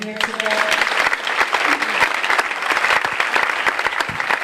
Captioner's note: audience applauding